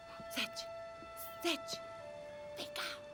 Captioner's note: whispering